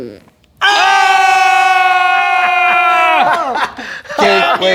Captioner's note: disappointed yelling